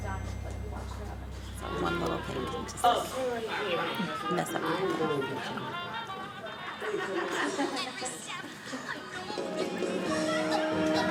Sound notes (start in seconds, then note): 5.4 chattering; 5.4 placid music